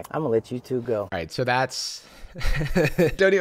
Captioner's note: laughs